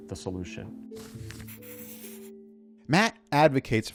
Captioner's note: highlighter hissing